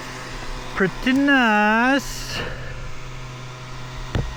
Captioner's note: engine revving